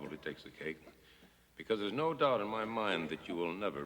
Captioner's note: coughing